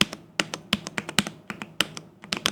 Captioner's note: keyboard clicking